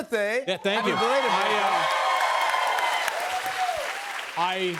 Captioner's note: cheers and applause